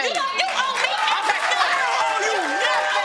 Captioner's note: audience applauding